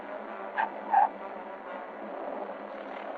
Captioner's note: tires screeching